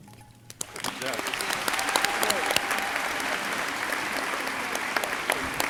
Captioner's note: crowd applauding